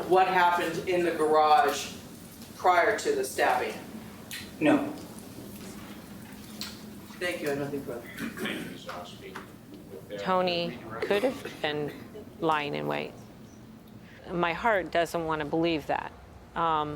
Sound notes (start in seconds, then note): 8.4 judge speaking faintly